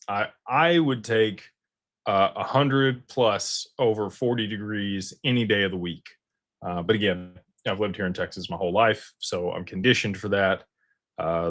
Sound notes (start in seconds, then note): none